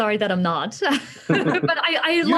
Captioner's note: laughs